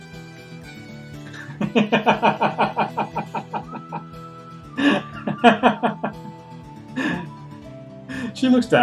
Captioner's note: laughs